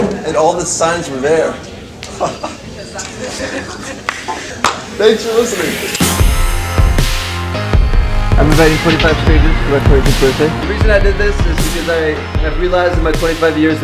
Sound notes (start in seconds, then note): 2.1 chuckling to himself; 3.1 pity laughs; 4.6 clap